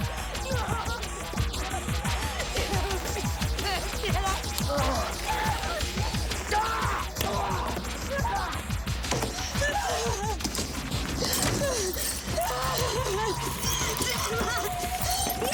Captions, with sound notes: Please, get off! (screaming) (grunting) (Jodie sobbing) Damn it!